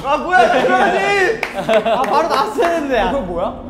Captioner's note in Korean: 즐거운 웃음